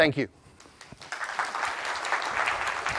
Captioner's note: applause